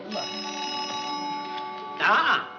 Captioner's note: phone rings